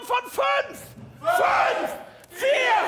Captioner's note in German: alle rufend